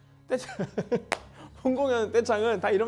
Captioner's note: laughs